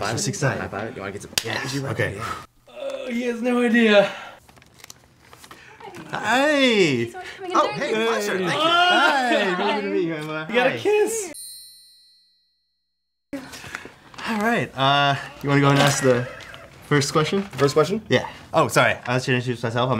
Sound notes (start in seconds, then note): 1.8 exhales nervously